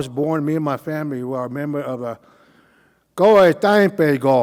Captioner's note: speaking Cauijoga